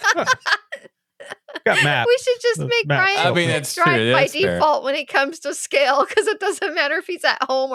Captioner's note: laughing